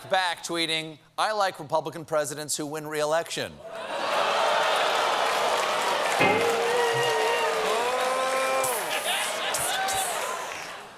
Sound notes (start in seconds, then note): 6.0 audience reacts; 6.2 piano riff